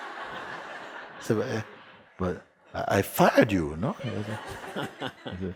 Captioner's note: laughter; laughter